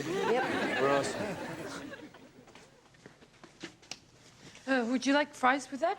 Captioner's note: audience laughs